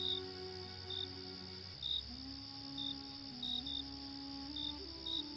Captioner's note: birds chirping